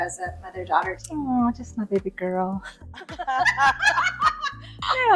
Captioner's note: ladies laughing